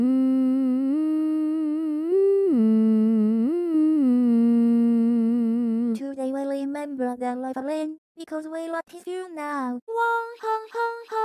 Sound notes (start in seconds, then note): none